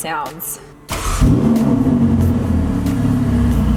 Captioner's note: engine revs